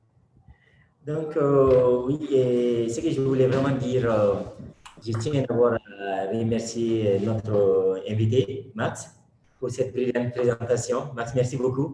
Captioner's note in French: Speaking in French